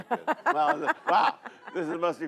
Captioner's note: laughs